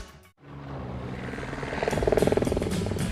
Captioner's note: helicopter sounds